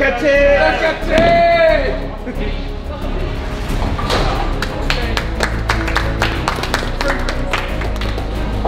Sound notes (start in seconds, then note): 4.6 lads applauding